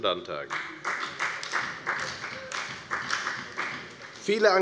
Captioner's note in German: Beifall bei der FDP und bei Abgeordneten der SPD